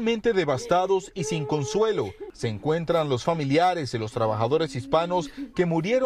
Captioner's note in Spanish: llora